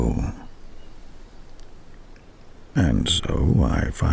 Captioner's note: wind and birdsong